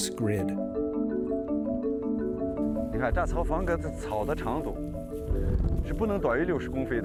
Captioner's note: speaking chinese